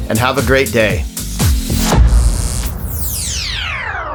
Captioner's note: laser sounds